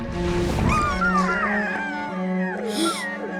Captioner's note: whimpering; gasping